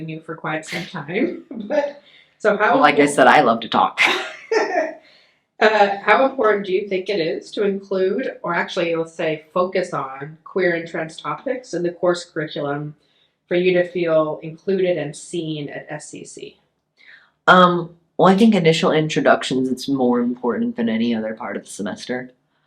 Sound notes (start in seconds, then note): 0.6 laughs; 4.0 both laughing